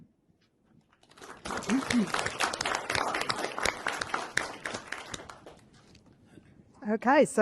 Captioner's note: applause